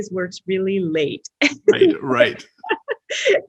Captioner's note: laughs